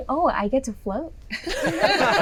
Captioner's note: laughing